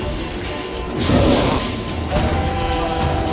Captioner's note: Quen shield crackles; flames whoosh; bellows